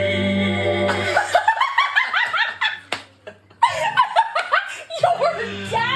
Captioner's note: friends laughing